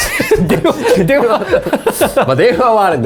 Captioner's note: laughs